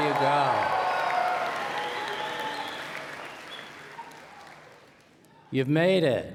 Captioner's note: cheers and Applause